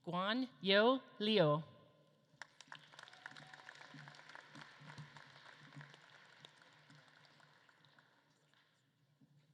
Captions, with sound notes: Guanyue Liu. (audience claps)